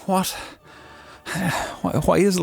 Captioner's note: sighs; exasperated sigh